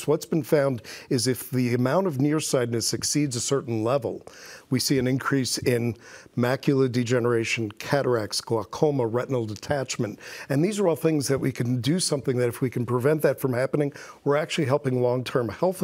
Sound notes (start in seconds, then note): none